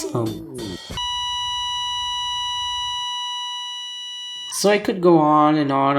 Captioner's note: flatline